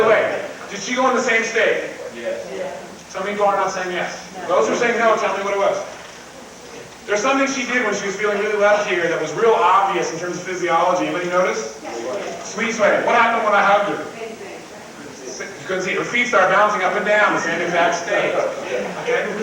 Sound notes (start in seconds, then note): 2.1 crowd; 12.0 crowd; 19.2 crowd laughs